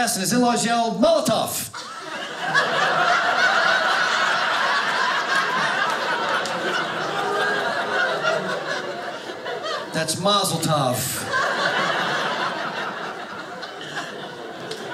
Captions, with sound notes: and his in-laws yell, molotov! (audience laughing) That's mazel tov. (audience laughing)